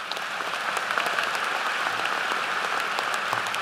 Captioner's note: applause